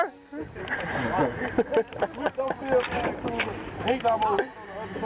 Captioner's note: soldiers laughing; soldiers chattering and laughing